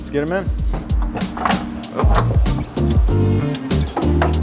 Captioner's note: mechanical noises